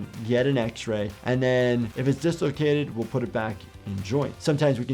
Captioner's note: none